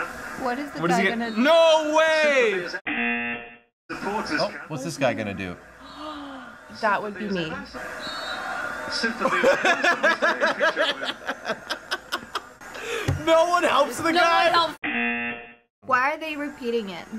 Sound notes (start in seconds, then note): 2.8 buzzer; 5.8 gasps; 7.8 laughs; 14.8 buzzer